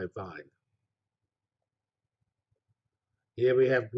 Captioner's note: pause